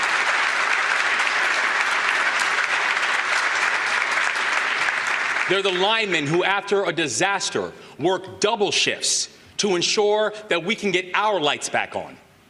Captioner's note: applause